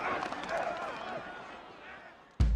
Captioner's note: crowd groans